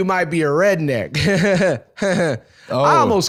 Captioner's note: Jeff Foxworthy laughter